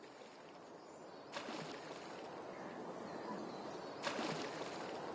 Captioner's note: water splashing